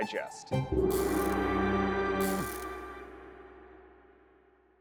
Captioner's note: gong rings